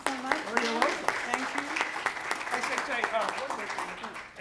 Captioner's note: applause